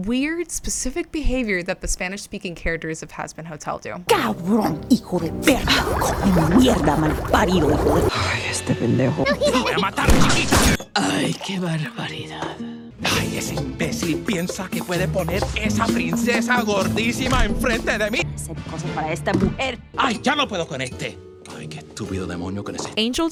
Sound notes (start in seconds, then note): 4.3 spanish muttering